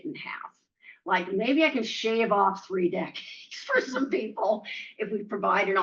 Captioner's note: laughs